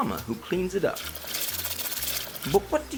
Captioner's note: moist mop noises